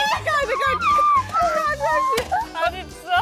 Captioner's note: they cannot stop laughing